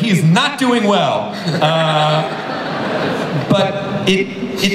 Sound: audience laughs

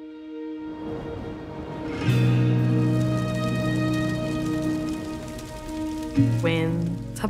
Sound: somber music; fire crackling

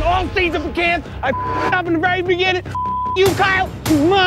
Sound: beep

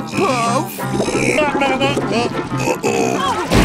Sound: grumbling

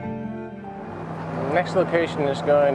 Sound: truck engine purring

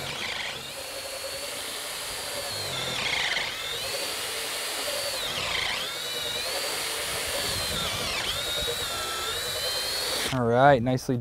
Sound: drill whirring, no additional audio

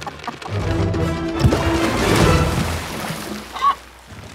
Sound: water splashes

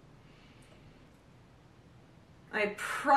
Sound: uncomfortable silence; horrified silence

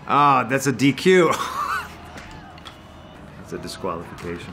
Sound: laughs

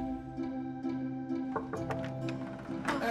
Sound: knocking

